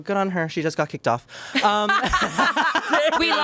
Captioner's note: everyone laughs